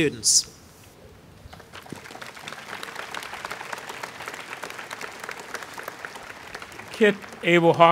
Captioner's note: applause